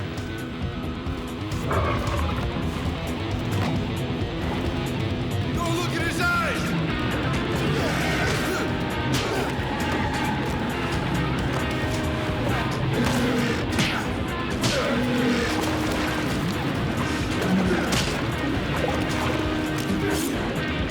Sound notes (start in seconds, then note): 0.2 moody rock music; 13.2 roars; 13.2 thuds